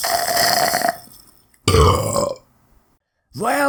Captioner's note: burp